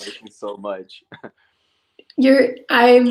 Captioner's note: laughs